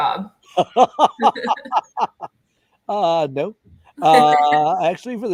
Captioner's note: laughter